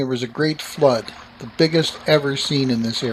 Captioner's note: running water